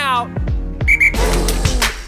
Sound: whistle

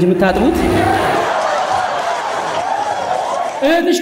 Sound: laughter

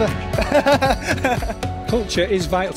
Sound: laughing

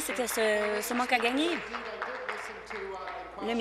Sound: applause

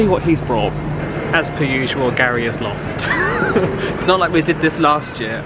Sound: laughs

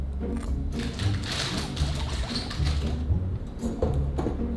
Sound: guinea pigs bubbly noises

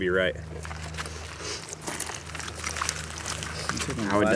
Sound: gravel crunching gently

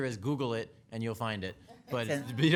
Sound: people laughing

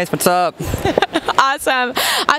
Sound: laughs

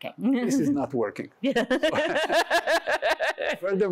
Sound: laughter

